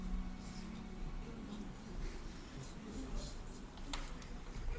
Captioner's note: Cornelius and Barnaby whispering